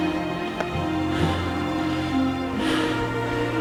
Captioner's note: panting